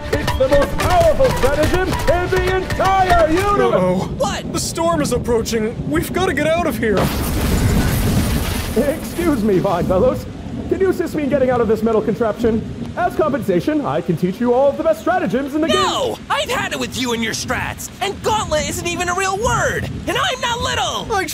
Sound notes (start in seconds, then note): 7.3 lightening crashes